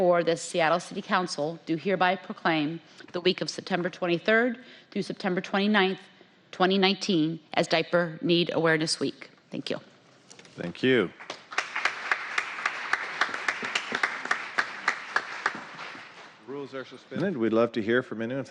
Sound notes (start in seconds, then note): 10.9 applause